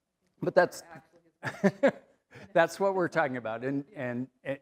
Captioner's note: laughs